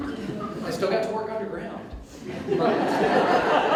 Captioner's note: audience Laughter